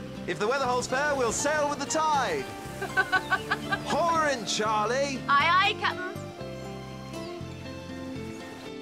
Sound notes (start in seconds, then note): 2.8 laughs